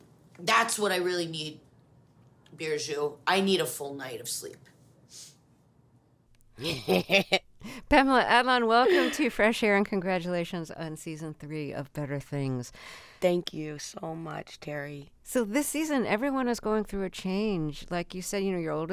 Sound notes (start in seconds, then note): 4.7 soundbite of archived npr broadcast; 6.6 laughter